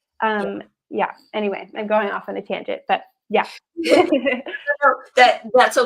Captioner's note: laughs